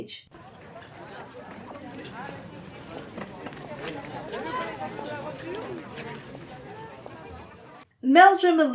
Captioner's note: French voices